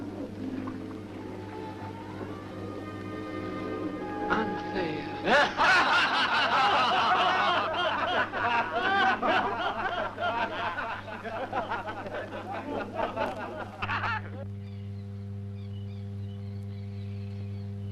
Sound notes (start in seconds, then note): 5.5 men laughing